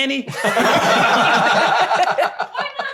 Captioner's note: laughing